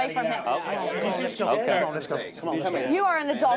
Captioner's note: chatter